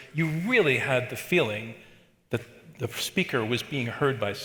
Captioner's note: none